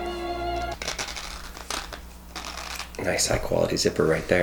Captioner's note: zipping